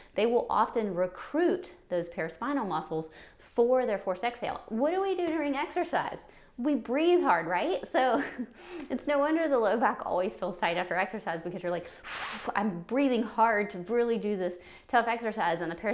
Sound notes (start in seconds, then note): 11.9 hard exhale